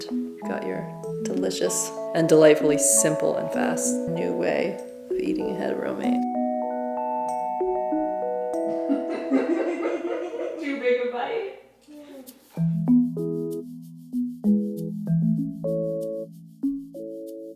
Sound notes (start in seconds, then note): 8.7 laughing